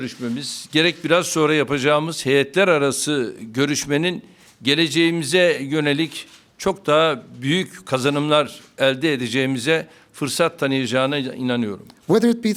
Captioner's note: speaking Turkish